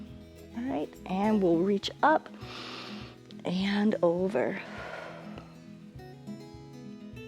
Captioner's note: exhales; inhales